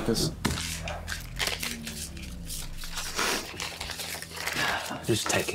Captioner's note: bills rustling